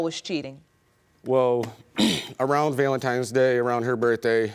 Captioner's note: clears throat